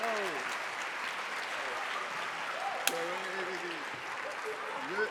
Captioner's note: band members chattering